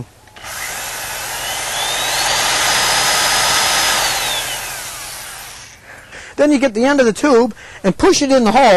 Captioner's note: drilling